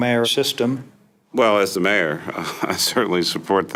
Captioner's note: chuckles